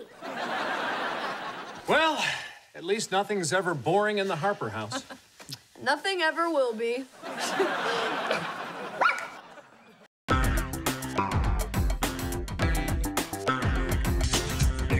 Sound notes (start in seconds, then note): 0.0 laughing; 7.2 laughing; 9.0 barking